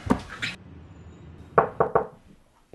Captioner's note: knocking on the door